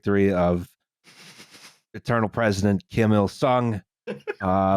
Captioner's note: laughs quietly; laughs